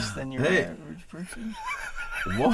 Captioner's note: laughing